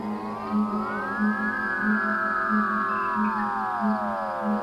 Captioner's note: pulsating noise